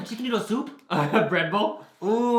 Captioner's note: laughs